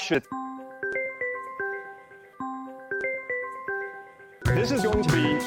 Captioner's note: ringtone